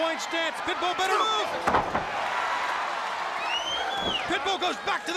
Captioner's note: crowd cheering